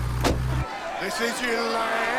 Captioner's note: overlapping chattering